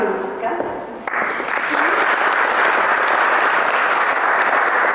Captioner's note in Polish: Aplauz